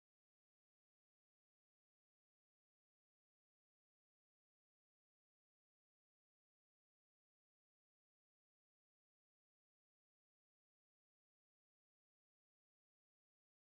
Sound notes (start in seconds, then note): none